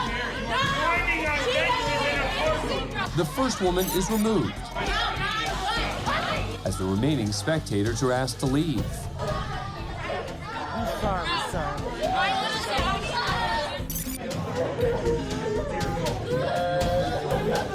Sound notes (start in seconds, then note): 4.8 shouting; 12.1 clamoring; 16.3 girl sobbing